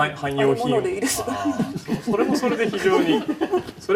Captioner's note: all laugh